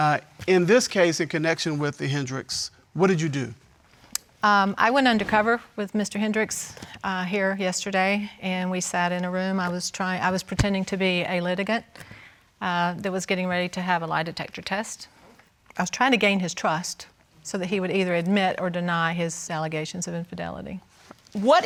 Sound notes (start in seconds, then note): none